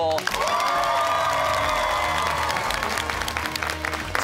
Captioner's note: cheers and applause